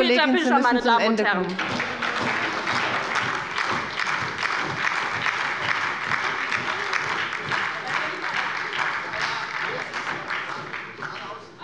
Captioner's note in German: Beifall bei der LINKEN und der SPD